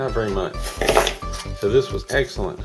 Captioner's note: metal crashing